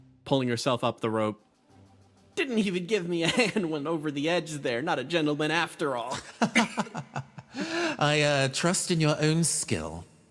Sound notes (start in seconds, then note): 6.1 Gartrinus Laugh